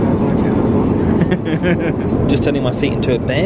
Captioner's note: laughs